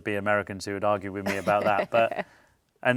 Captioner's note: laughs